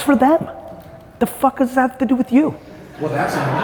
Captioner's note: audience laughing